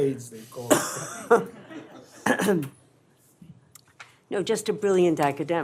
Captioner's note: laughter